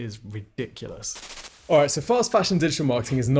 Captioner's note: static fizzles